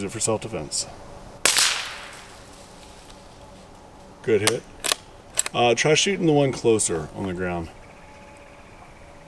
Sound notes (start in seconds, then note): 0.0 suppressed gunshot